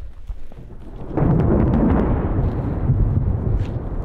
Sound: thunder

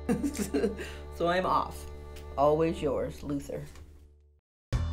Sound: laughs

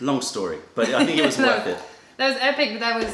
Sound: laughter

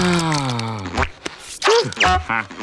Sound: sighing

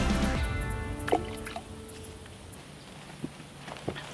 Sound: splash

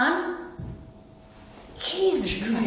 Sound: thud

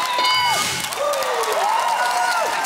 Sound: cheering and applause

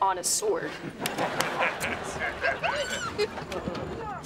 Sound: laughing

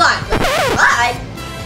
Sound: record scratches

